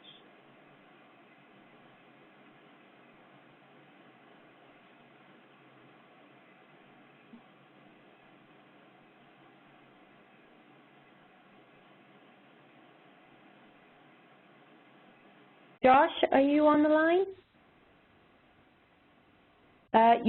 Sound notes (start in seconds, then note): 2.8 silence